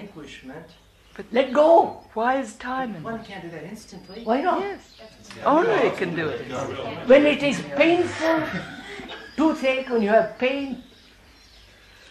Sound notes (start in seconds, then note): 5.0 many voices